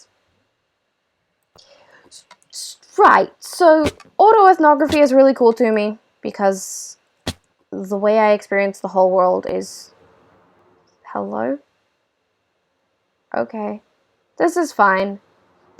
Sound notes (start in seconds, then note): none